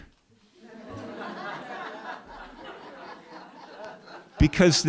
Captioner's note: laughter